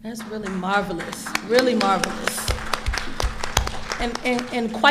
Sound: audience applauding

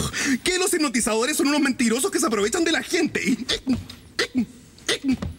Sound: hiccups

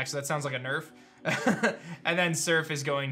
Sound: laughs

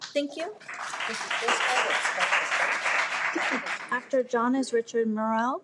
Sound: everyone applauds

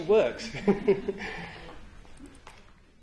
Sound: laughter

